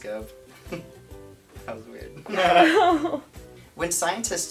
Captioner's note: laughing